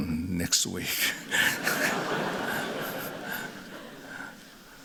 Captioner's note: laughter